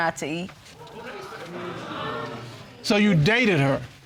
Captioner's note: audience sighs